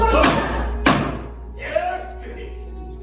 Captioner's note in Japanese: 木槌を打つ音